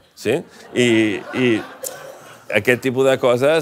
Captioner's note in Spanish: risas